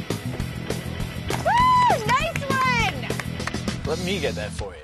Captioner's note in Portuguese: Aplausos